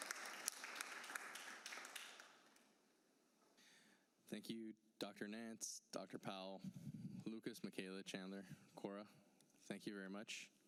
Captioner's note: applause